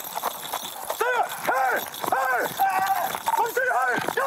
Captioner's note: shouting